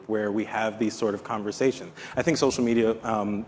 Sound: none

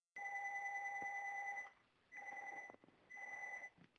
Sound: phone rings in the background

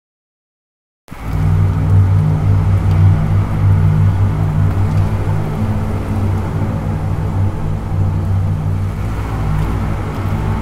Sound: sound of rain

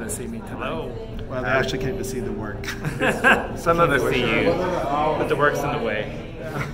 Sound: laughing

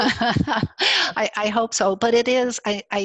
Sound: laughs

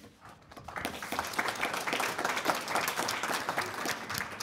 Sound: audience applauds

